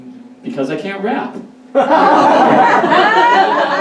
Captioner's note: audience Laughs